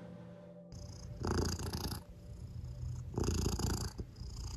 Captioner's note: cat purring